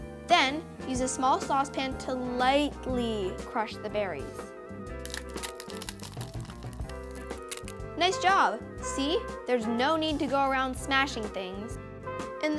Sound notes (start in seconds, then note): 5.0 berries crunching